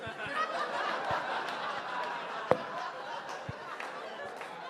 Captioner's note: audience laughing